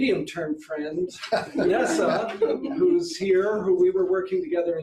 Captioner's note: audience laughs